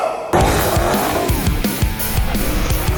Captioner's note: zombie noise; vroooooom